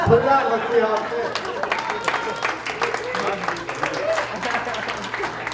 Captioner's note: laughter and applause